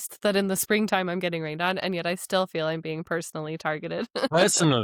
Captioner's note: laughs